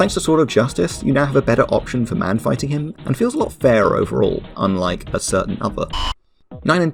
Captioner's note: distort to static